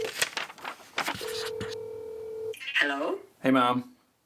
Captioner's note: phone line ringing; paper rustling; pencil scratching